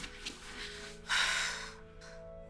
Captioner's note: Sighs